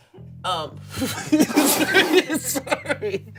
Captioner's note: everyone laughs